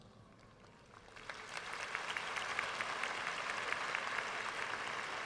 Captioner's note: audience applauding